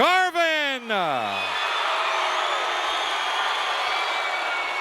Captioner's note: crowd cheering